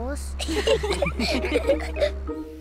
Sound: all giggle

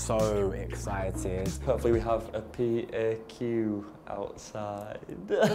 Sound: laughing

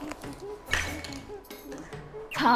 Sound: clang

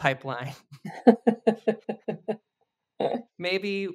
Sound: both laugh

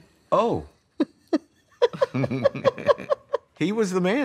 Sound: laughing

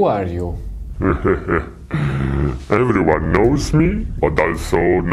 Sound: laughter

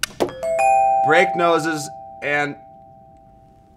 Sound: upbeat music; clock ticking; bell dinging

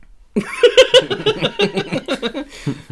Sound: nervous Laughter

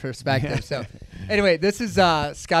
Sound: laughing

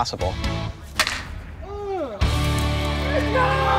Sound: hitting a baseball

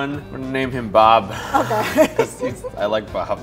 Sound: laughs

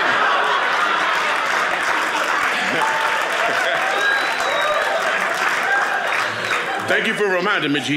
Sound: audience clapping

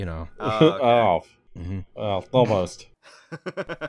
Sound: laughter

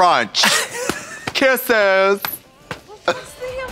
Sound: Katya wheezes

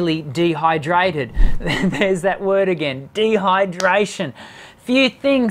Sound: chuckles

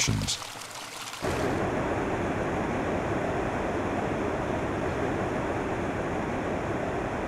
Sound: water sounds

